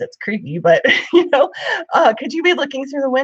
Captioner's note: laughs